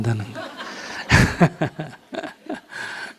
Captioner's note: audience Laughter